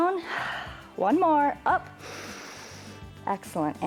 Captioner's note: inhales